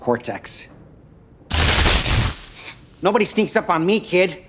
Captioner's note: electricity crackling